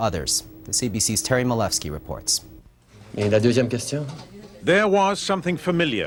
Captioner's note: Justin Trudeau speaks in French